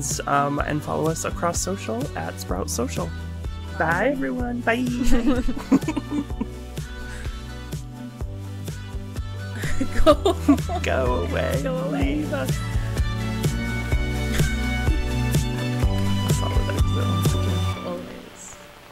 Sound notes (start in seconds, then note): 5.0 group laughing; 13.8 upbeat electronic music